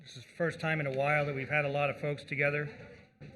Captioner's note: gavel